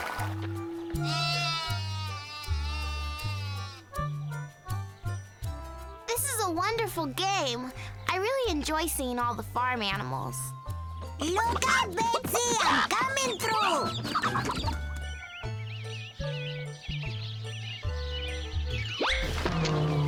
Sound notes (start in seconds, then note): 0.2 sputters; 1.0 bleating; 11.4 clucking; 12.0 birds chirping